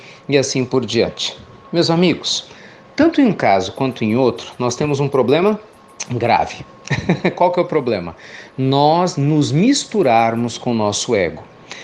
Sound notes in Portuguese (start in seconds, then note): 6.8 Risos